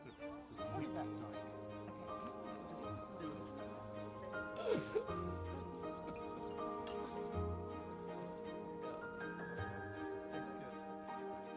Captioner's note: people chatting and laughing